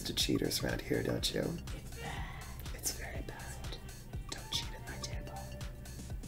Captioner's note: whispers